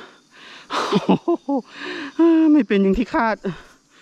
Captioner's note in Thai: หัวเราะ